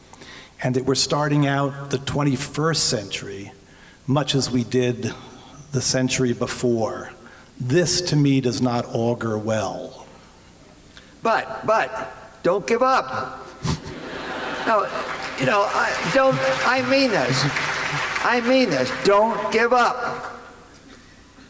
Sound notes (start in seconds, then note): 13.6 laughter; 14.1 applause